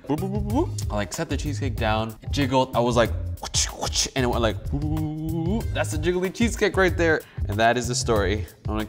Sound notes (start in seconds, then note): 3.0 mimics slapping noises; 4.9 mimics wiggling noises